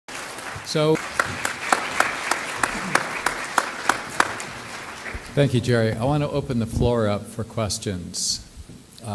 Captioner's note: clapping